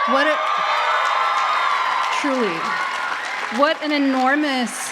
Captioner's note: applause